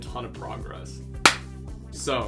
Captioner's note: hand clap